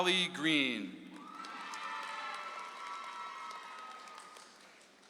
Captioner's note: audience applauds